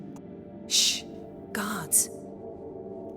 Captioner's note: hushed